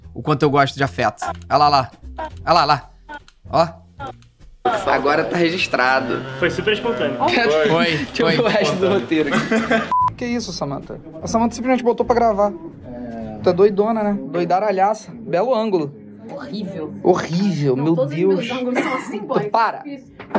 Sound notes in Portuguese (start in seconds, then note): 9.9 som de bipe